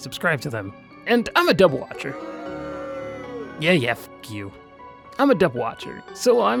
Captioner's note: boo